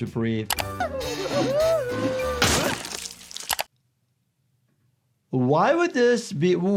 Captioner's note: Nutty laughing; Nutty splatting